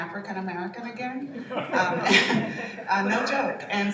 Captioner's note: laughter